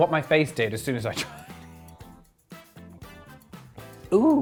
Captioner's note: laughs